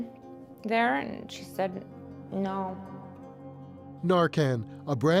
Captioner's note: echoes